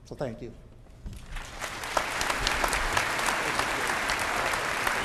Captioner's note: applause